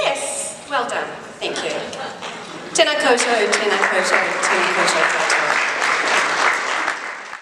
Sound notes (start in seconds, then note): 3.2 applause